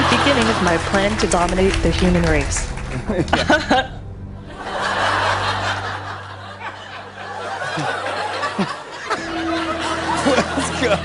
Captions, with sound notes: This is a good beginning of my plan to dominate the human race. (chuckles) (audience laughing) (laughing)